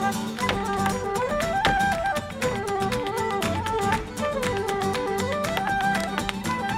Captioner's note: bright music; shoes rhythmically tapping